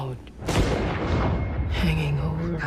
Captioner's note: thunder rumbling